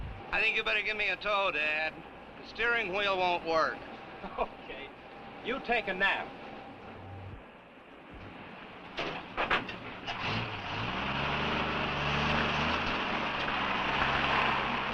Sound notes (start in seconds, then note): 4.2 laughs; 10.9 engine rumbling